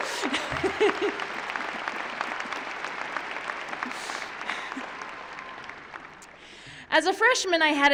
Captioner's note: applause